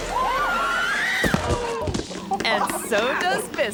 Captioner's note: screams; thumps